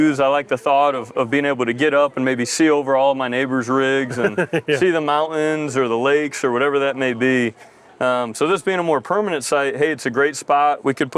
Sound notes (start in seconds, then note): 4.0 laughs